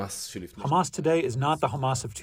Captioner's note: through translator